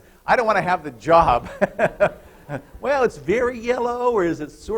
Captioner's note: laughter